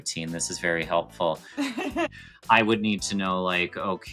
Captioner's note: laughs